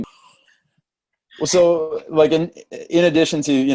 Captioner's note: laughs